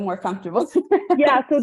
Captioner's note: laughs